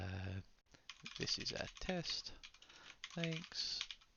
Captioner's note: keyboard clicking